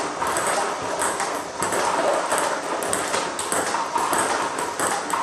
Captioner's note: ball ping pong hitting continues